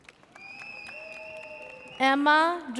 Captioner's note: audience cheers